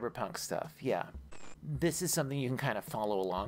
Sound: static

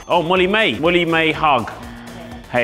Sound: incorrect buzzer

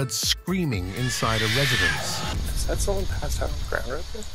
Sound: child screaming

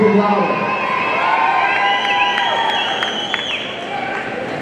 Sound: audience cheering

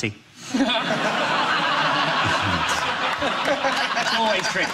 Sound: audience laughs

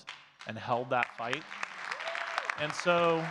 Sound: audience claps and cheers

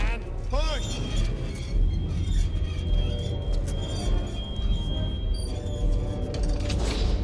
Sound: tense music; door creaking

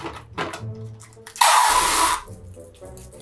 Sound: tape noise

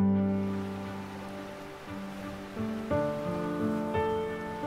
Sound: water rushing

